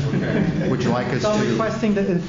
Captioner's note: laughter